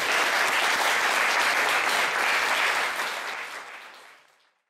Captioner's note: applause